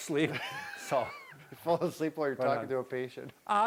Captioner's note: laughing